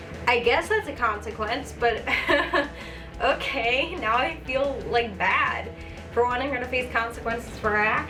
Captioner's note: chuckle